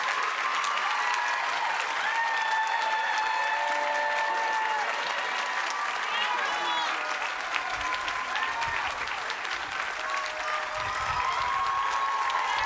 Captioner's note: cheers and applause